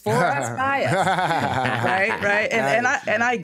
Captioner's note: laughs